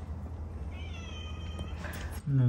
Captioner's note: Luna meows